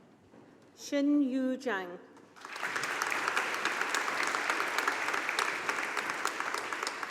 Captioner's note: audience applauding